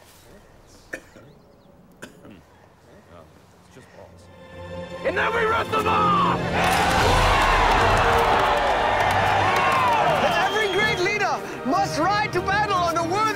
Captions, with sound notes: AND THEN WE RIP THEM OFF! (Crowd Cheering) EVERY GREAT LEADER MUST RIDE TO BATTLE ON A WORTHY STEED.